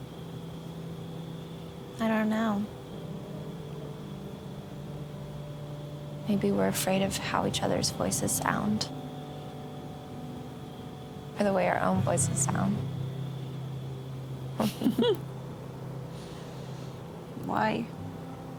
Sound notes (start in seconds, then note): 14.6 giggling